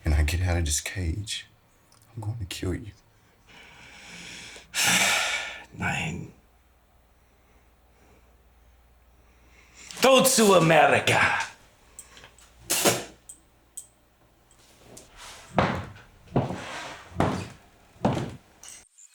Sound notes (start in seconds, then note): 4.6 Siegmund sighing; 5.9 Siegmund speaking German; 12.6 Siegmund spitting; 14.7 boots stomping